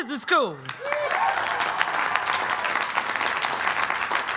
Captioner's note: applause